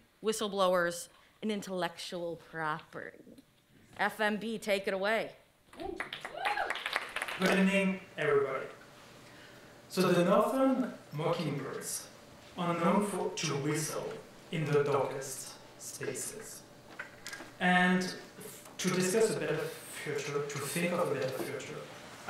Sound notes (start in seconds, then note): 5.9 audience applauding and cheering